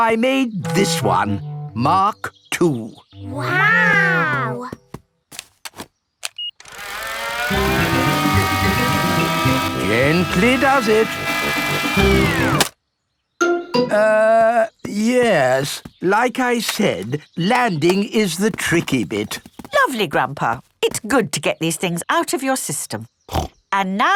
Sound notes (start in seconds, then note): 6.3 beeps; 6.6 plane humming; 12.3 humming stops